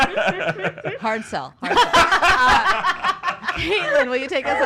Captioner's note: laughing